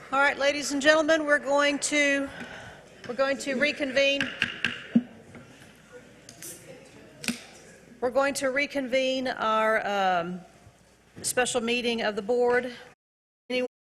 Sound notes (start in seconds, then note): 4.1 gavel tapping block